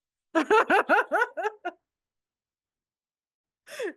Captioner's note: laughs